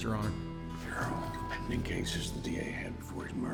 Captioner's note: whispers